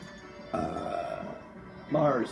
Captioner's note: long burp